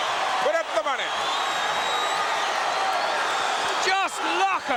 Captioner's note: audience cheering